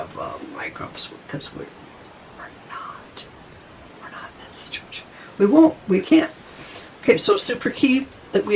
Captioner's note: whispering